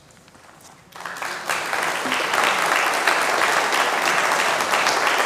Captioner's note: congregation clapping